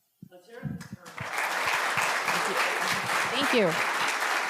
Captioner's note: audience applauding